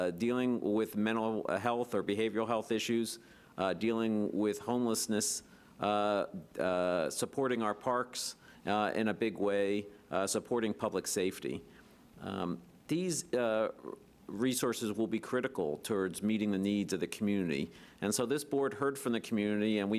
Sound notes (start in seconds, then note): none